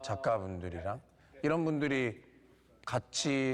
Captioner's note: speaking Korean